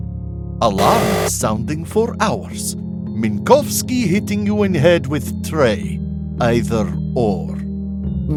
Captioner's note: buzzer